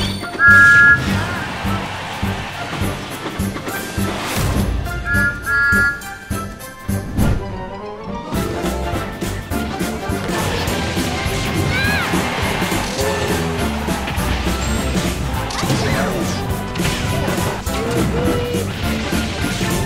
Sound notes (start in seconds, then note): 0.0 whistle charging; 0.2 intense whistle attack; 5.0 thomas whistling